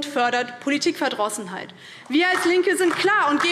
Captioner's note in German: Beifall DIE LINKE